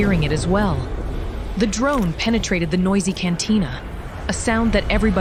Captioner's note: distant battle sounds & approaching med-lifters